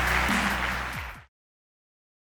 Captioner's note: audience applauding